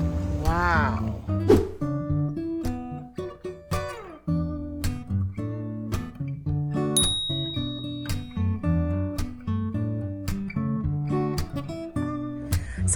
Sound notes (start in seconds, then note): 0.0 background music; 1.1 bell sound